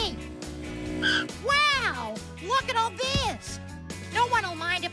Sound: tires Screech

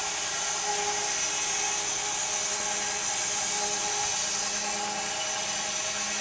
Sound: saw whirring continues

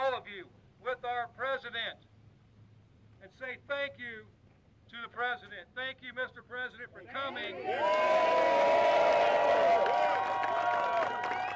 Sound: applause

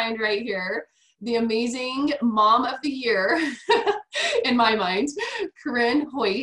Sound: laughs

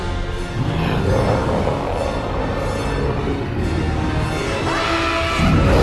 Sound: tense music; Maleficent growling; laughing

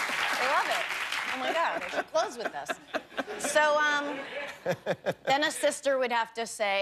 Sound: laughter; applause

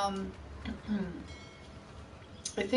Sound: clears throat

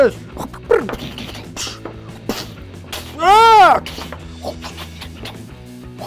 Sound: whisping air and fighting shouts

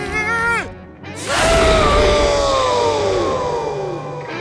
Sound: sneezing

